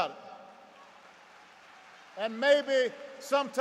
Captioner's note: applause